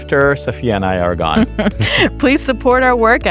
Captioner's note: chuckling